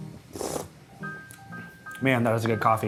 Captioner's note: slurps